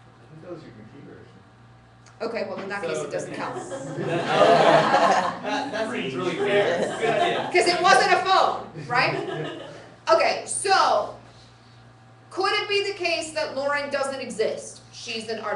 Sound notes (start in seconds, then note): 5.0 laughter